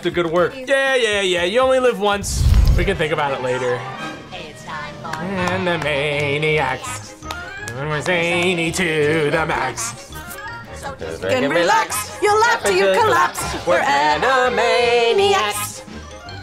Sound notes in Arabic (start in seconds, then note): 2.2 انفجار قنبلة